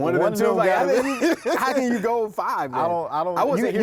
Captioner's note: both laugh